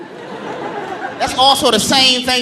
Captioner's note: audience laughing